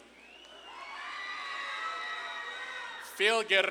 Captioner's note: audience claps and cheers